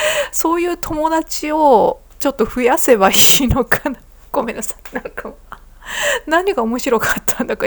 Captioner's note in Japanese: 息をのむ音; 笑い; 息をのむ音